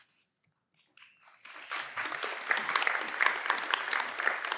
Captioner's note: applause